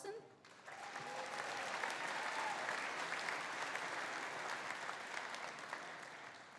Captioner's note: audience applauding; audience cheering